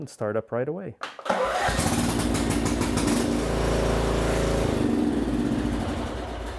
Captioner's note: lawn mower engine roaring